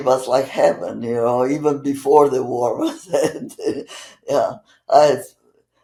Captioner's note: laughing